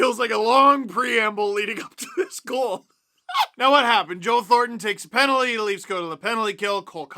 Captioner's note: manic laughter; laughter